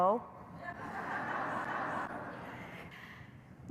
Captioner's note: laughter